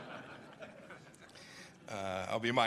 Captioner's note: laughter